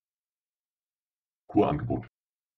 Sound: fast Pronunciation

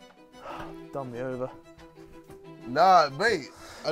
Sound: sighs

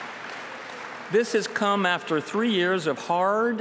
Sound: applause

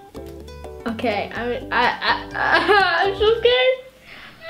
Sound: laughing

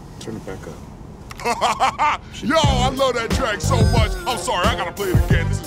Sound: laughing

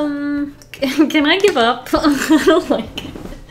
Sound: laughs

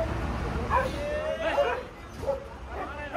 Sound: 𝘋𝘰𝘨𝘴 𝘣𝘢𝘳𝘬𝘪𝘯𝘨

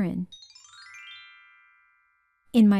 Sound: chime sound

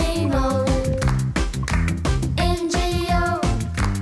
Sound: clap! clap!

